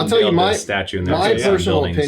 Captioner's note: jabbering